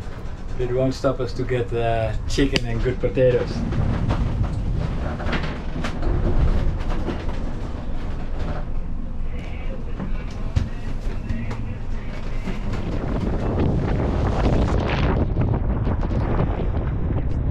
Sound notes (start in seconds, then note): 14.1 wind